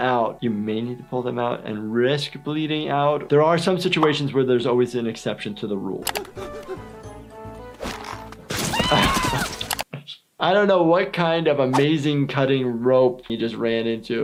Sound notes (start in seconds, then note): 6.0 quirky music; 6.3 Lumpy gasping